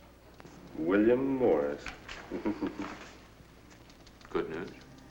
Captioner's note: chuckles